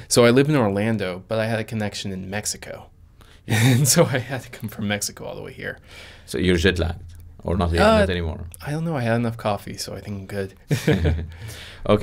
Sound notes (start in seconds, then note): 3.5 chuckles; 10.7 chuckles